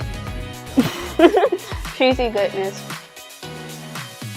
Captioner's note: giggle